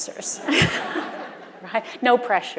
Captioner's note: audience laughing